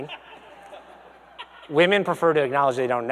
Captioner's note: audience laughs